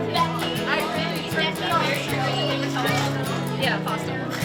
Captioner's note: girls chattering